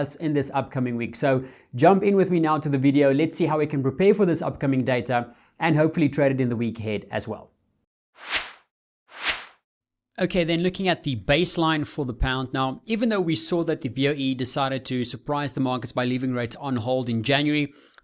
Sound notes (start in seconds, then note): 8.2 swoosh sounds